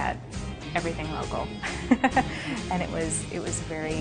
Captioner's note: laughs